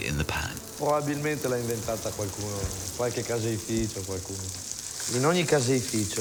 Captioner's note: speaks in foreign language